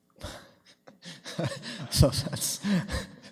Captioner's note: laughing